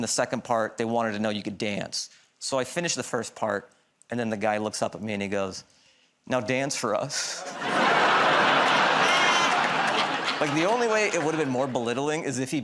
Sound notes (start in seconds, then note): 7.4 laughter